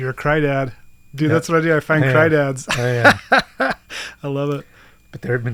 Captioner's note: laughs